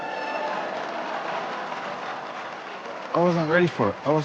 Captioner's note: cheers, applause